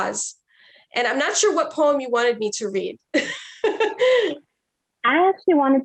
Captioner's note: chuckles